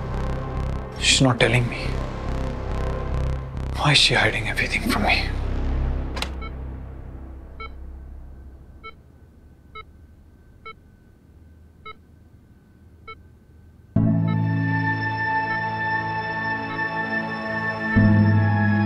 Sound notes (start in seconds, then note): 7.4 steady beeping; 13.9 sombre music